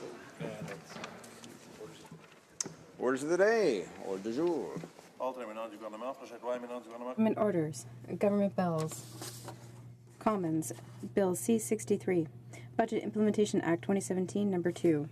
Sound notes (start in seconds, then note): 11.5 speaking French